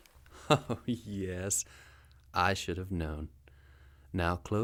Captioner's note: chuckling